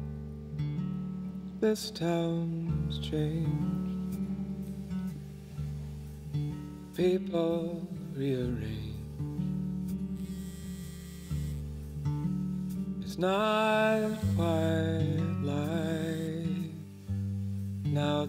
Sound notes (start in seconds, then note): 10.1 cellphone vibrating